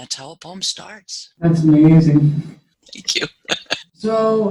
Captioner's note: laugh